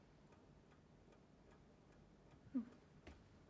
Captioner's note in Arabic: دقات الساعة